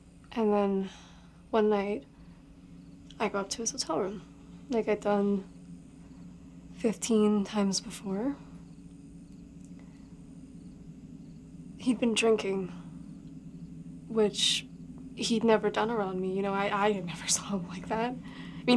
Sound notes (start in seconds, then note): 0.0 crickets chirping; 8.3 crickets chirping; 8.4 tense music